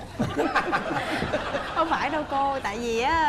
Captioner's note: laughing